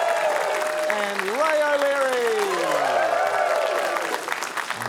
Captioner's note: cheering, applause